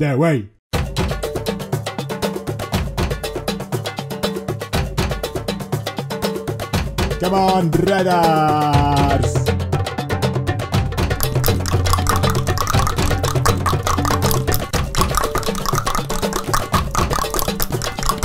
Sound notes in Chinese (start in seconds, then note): 6.5 召喚bgm再次響起; 15.5 大量彈舌